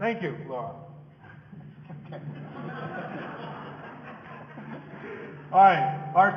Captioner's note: audience laughing